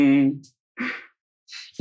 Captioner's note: laughs; laughing